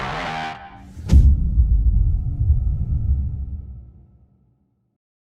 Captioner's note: dramatic sound